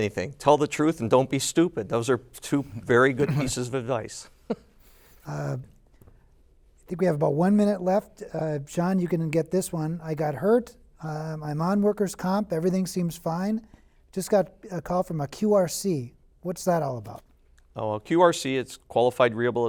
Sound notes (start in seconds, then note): 4.4 laughter